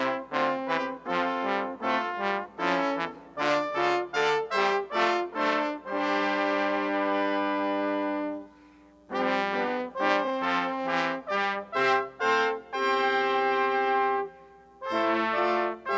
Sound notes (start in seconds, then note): none